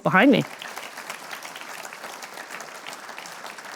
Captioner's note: applause